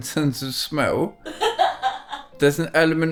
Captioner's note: laughing